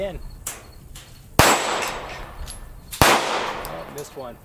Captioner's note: gunshot; gunshots